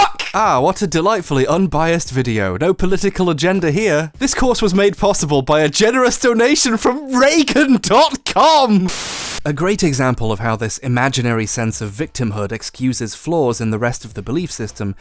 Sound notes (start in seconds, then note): 8.8 white noise hissing